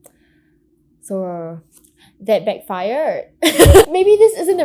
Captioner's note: laughs